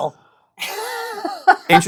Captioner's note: laughs